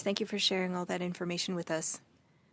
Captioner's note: speaking French